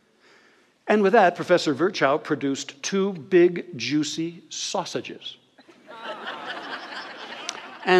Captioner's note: audience laughter